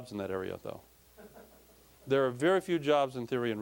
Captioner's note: audience laughing